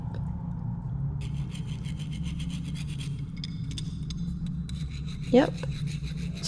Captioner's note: Metal sawing as Kismet gets down to it